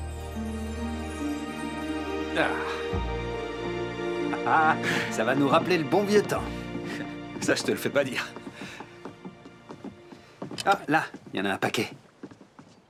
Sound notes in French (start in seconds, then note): 3.8 Alyx glousse